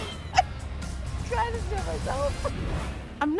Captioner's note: both laughing; indistinct chatter